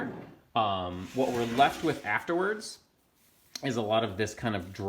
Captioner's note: sliding pan on wood